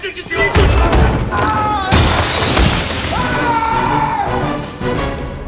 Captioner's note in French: cris de rage